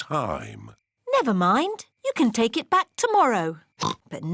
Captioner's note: oinks